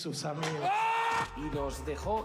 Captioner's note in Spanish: grita